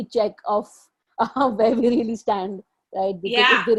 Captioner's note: laughing